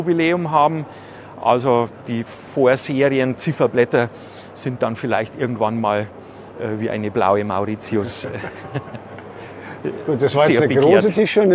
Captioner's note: laugh